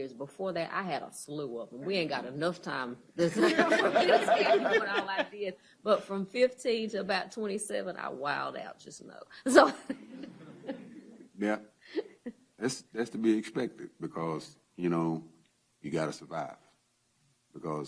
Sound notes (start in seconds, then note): 3.2 laughter